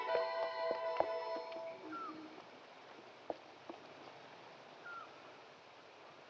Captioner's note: bird calling; wind rustling